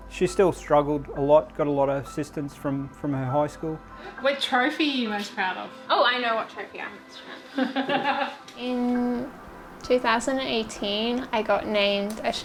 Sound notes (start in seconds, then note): 7.2 laughs